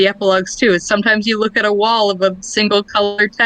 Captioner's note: laughs